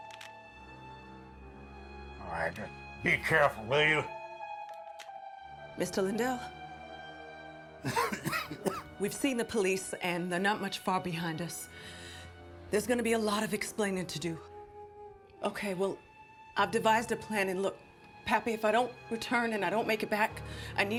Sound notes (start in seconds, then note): 0.2 mysterious music; 7.8 Pappy coughing